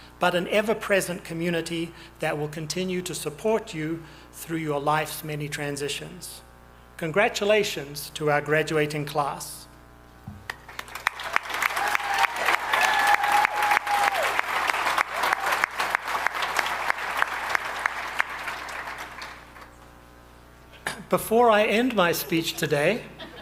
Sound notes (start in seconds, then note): 11.2 audience applauding